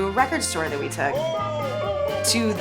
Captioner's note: men cheering